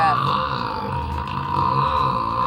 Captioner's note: stifled laughter